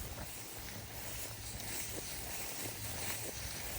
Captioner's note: grass rustling